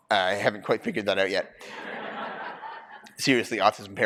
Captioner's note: laughter